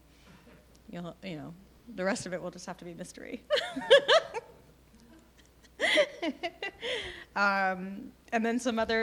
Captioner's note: laughing